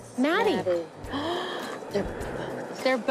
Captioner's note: gasps